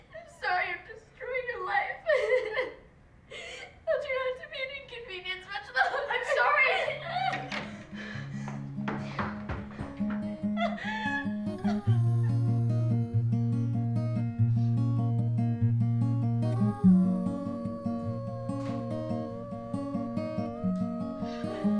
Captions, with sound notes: I'm sorry I'm destroying your life. I'll try not to be an inconvenience much longer. - I'm sorry! (loud sobbing) (solemn music)